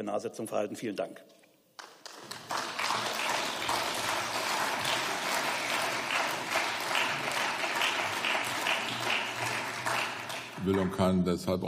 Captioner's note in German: Beifall